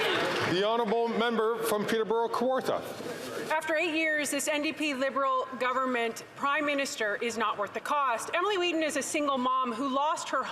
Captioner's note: some Applause